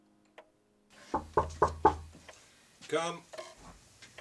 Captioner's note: knocking